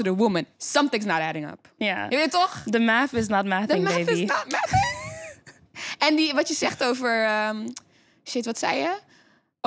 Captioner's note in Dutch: in koor